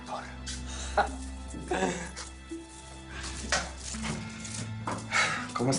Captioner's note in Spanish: Susurra